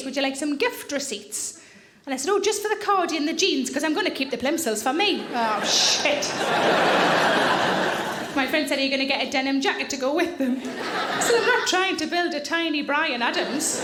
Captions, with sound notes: would you like some gift receipts?" And I said, "Just for the cardy and the jeans 'cause I'm gonna keep the plimsolls for me." Oh, shit! (audience laughing) My friend said, "Are you gonna get a denim jacket to go with them?" I said, "I'm not trying to build a tiny Bryan Adams."